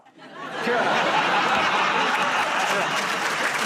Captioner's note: laughter